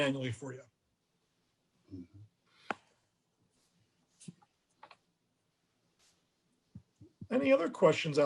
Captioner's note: silence